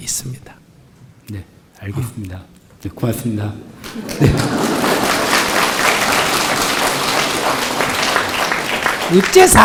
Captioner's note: applause